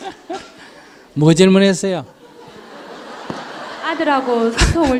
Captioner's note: Sunim Laughter; audience Laughter